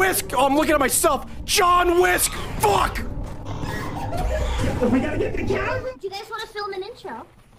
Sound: laughs

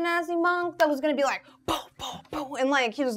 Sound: humming

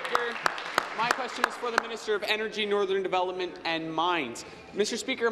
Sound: applause

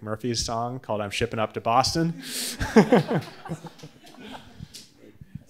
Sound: laughs

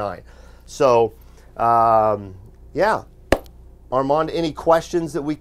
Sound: hands clap

